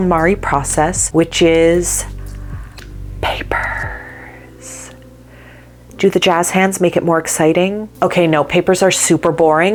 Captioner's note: whispered